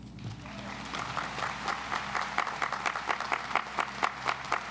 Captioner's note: audience applauds